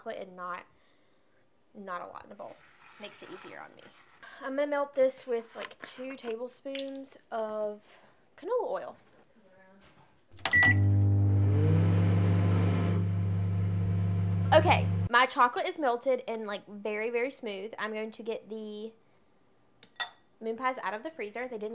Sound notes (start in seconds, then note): 10.4 microwave beeps